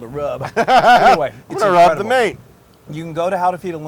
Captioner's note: laugh